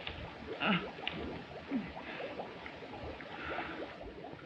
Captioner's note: moaning